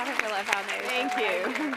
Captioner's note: applause